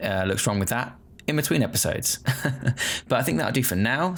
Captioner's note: chuckling